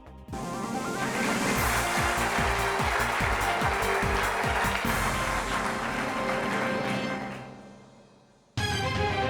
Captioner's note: applause